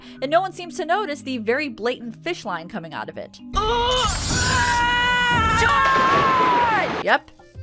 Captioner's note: Todd screams